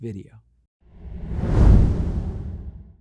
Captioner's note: logo whooshing